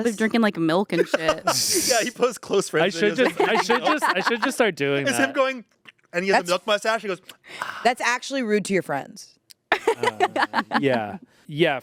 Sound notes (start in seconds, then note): 7.5 sighs; 9.7 laughs